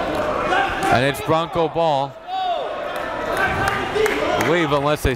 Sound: players chattering

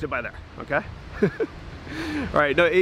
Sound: laughs

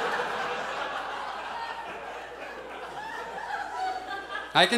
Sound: audience laughs

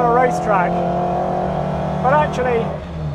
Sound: engine revving

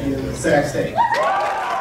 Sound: cheering

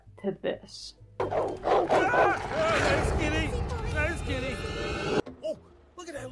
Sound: barking

